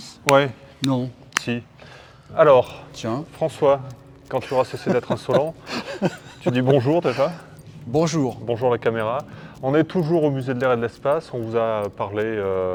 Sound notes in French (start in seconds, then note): 4.4 rires